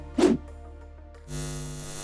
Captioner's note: air whooshing; eyes buzzing